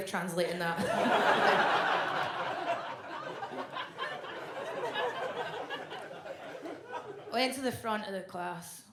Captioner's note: audience laughs